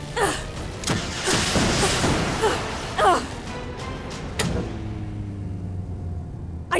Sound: grunting; dramatic music; grunting; launchers firing

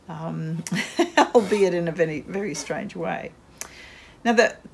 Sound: laughs

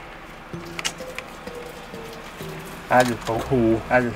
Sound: smacks lips

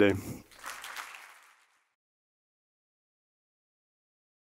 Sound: audience applauds

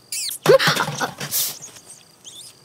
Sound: tumbler dropped from hands

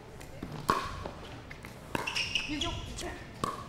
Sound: ball bouncing

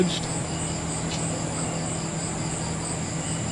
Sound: gecko krr sound

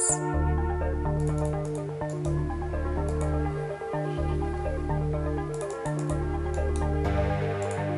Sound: mouse clicking

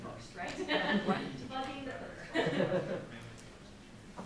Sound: laughing

